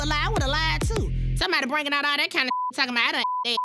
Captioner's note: beep